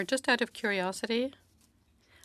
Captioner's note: speaking French